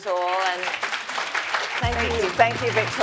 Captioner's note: audience clapping